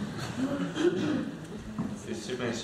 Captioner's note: laughter